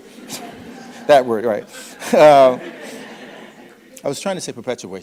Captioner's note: audience laughing